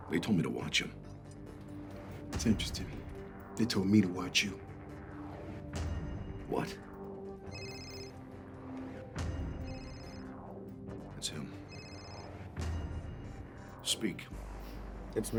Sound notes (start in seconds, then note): 7.8 phone ringing